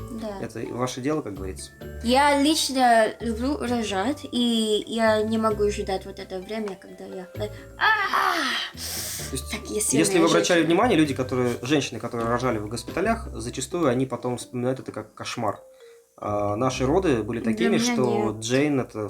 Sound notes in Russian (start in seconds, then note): 7.8 крик